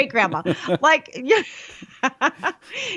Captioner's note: laughs